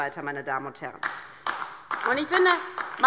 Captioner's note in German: Beifall DIE LINKE